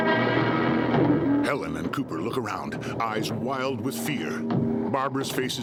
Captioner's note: heavy breathing; ominous music